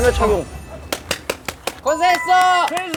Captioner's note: applause